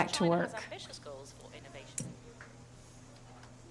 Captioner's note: news report in the background